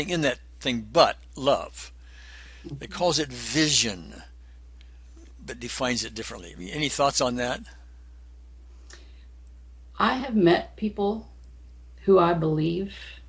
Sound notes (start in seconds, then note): none